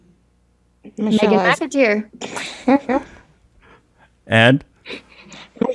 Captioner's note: laughs